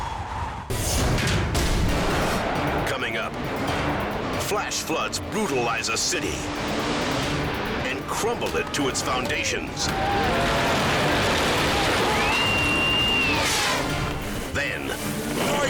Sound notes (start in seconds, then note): 0.9 metal thuds; 9.3 building rumbles; 9.8 bystander screams; 13.1 air whooshes